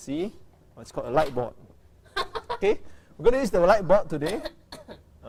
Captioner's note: laughter